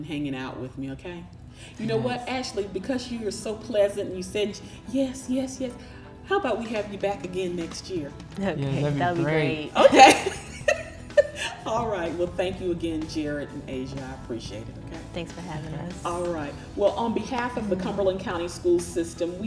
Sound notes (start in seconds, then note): 9.8 laughter